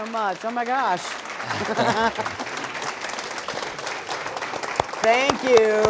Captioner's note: applause